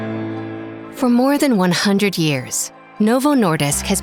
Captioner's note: gentle music; voiceover